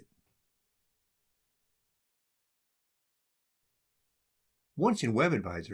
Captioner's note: silence